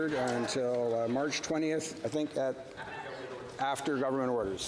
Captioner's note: heckling